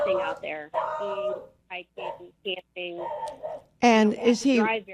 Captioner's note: dog barking